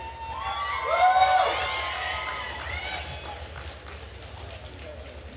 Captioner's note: attendees cheering and applauding